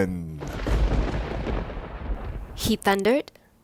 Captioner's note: thunder claps